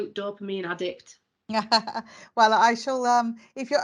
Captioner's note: laughing